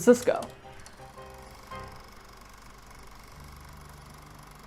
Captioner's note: projector whirring